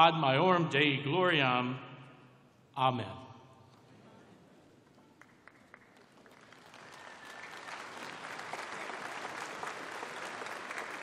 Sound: applause

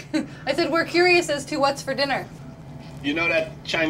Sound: chuckles

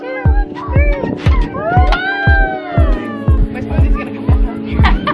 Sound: exclaiming excitedly; mumbling excitedly

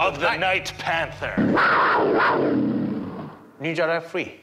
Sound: panther growl

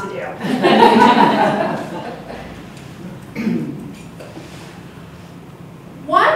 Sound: audience laughs

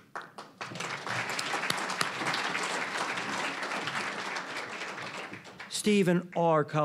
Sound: applause

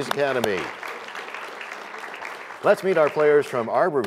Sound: applause

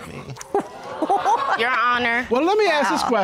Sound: all laughing

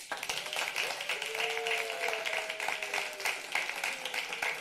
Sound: applause

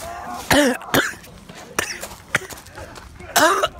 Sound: coughing

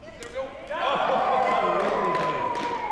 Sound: cheering

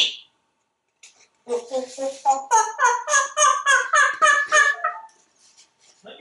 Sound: monkey sound

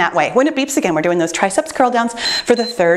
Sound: timer beeps

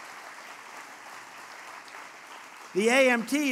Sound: applause

